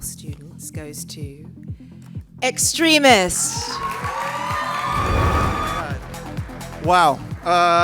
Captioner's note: applause